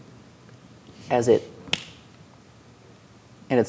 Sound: snaps

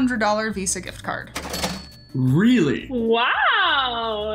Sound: cash register clinking

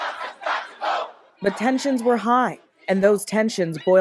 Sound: chanting

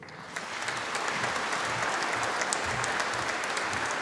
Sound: audience applauding

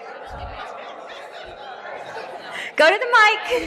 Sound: laughs

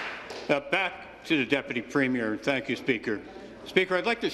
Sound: applause

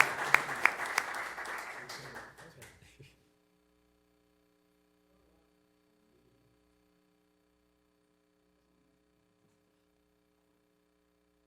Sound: applause

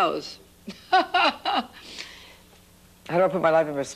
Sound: laughs

